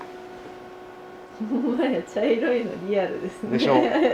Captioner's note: laughter